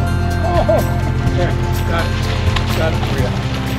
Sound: fish splashing; groaning

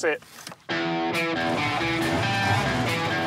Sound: rock guitar; motor turns on

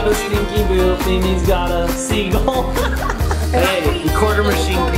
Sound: laughs

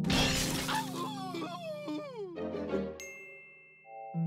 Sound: crashing; loud whining

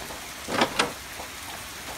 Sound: door opening

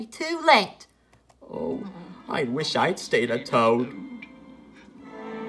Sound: tingle

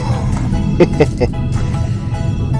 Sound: laughs

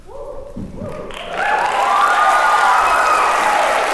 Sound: applause

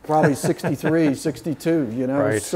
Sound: laughing

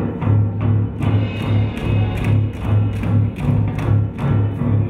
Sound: dramatic music; feet stomping

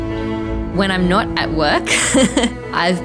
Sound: chuckles

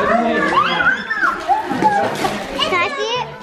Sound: children yell

